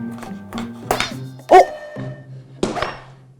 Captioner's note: hits